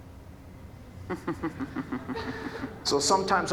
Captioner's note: audience chuckling